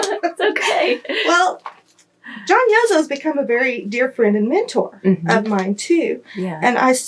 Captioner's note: laughter